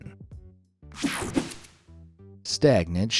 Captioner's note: graphics whooshing